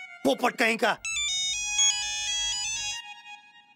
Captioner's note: phone ringing